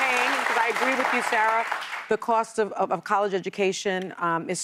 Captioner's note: applause